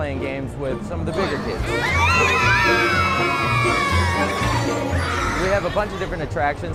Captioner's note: children yell and squeal